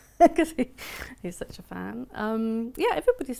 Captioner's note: laughs